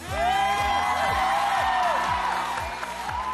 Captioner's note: audience whooping, clapping